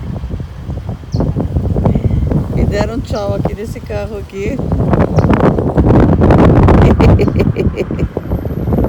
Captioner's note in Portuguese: risos